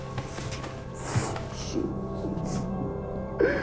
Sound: sobbing

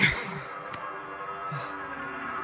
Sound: Marvy breathing fast

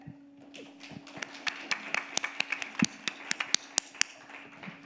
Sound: audience applauding

